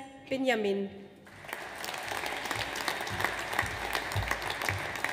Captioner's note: audience applauds